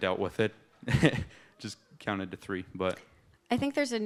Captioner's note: laughs